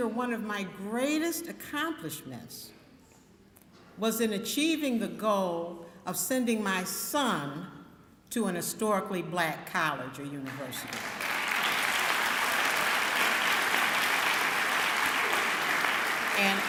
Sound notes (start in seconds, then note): 10.8 clapping